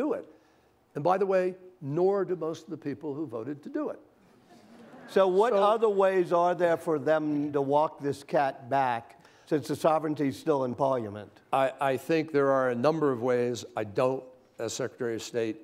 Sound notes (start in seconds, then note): 4.4 laughter